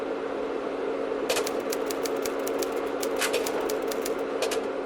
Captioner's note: typewriter keys clack